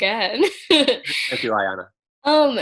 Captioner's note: laughs